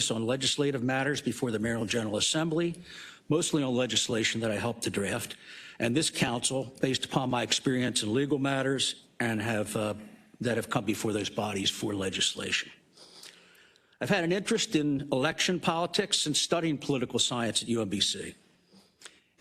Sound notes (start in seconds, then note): none